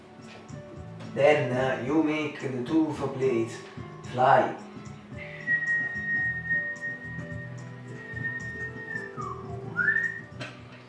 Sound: whistle

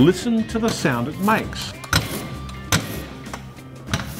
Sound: clanking and whirring

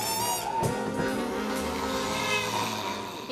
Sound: car horn blares, zombie snarls

